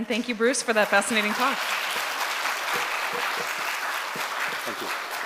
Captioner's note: audience clapping